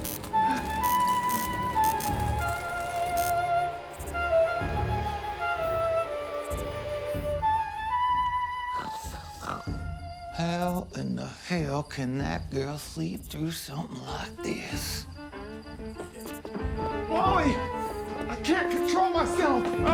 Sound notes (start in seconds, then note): 0.3 hypnotic flute music; 8.8 Susan snores; 16.2 upbeat country music